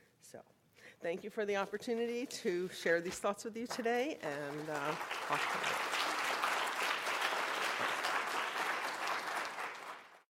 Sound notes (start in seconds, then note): 4.2 applause